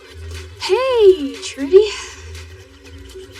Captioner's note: sigighs